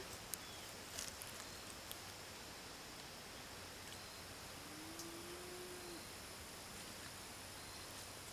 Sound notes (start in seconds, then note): 4.6 cow moos in distance